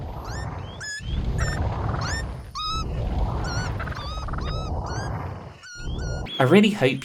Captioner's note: squeaky melody sound effect